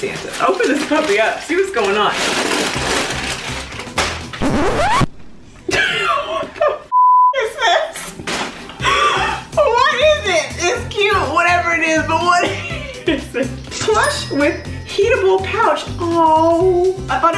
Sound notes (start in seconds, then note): 4.4 record scratching; 6.9 beep